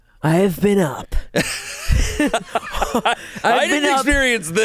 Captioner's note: laughs